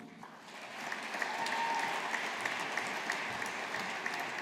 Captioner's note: audience applauding